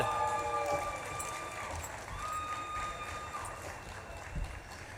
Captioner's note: audience claps and cheers